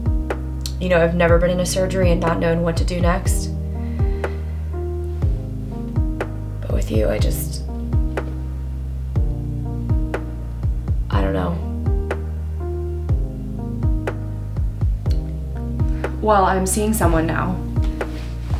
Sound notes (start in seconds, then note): none